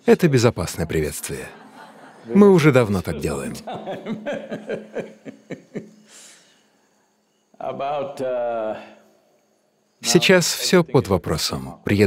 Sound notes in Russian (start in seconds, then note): 4.8 Смеется